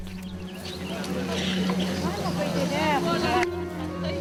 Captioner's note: crowd chatters